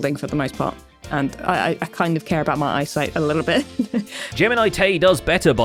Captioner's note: laughs